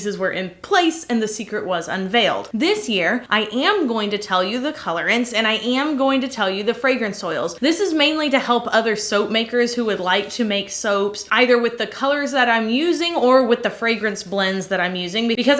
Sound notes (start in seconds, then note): none